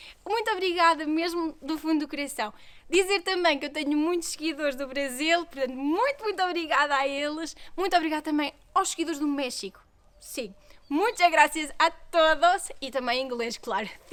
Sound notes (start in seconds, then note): 11.9 in Spanish